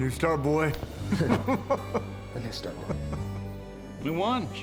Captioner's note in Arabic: تضحك بسعادة